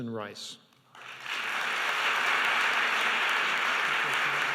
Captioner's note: applause